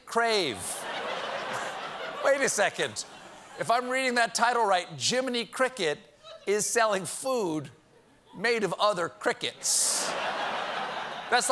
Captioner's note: laughter